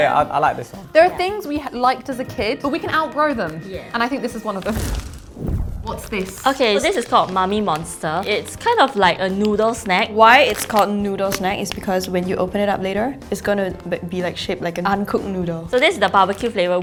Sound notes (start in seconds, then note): 4.6 fire effect sound